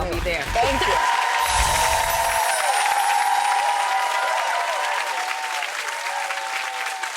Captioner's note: crowd applauds and cheers